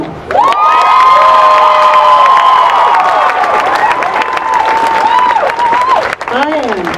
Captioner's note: applause